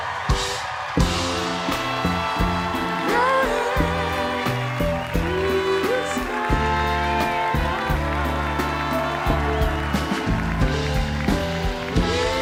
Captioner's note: cheers and applause